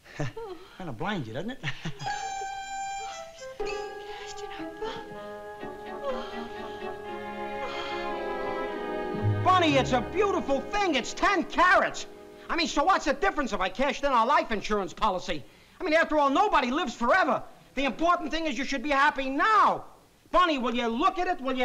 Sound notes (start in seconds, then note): 1.6 chuckles; 2.0 whimpering; 4.0 whispering; 6.4 whimpering